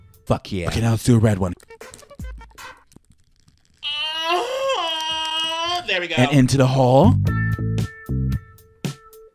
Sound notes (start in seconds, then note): 3.8 moaning